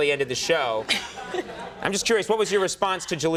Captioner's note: laughing softly